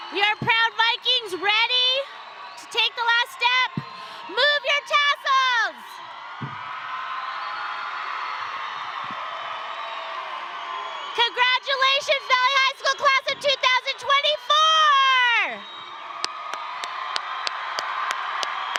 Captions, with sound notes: We are proud Vikings-ready to take the last step. Move your tassels! (attendees applaud) (attendees cheer loudly) Congratulations Valley High School Class of 2024. (all cheering loudly)